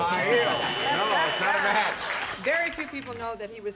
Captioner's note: buzzer